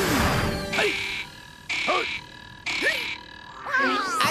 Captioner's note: cawing; grunting